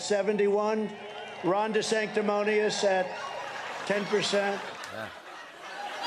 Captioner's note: laughter